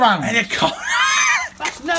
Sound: laughing

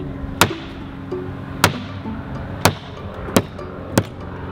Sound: mirror smacking

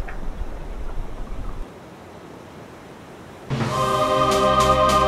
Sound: waves crashing; dramatic music

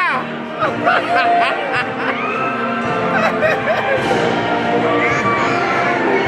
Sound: audience member laughing

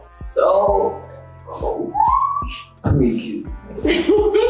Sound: laughing

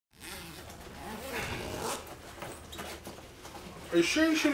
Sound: zipper zipping

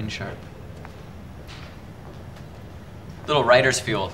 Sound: phone rings in distance

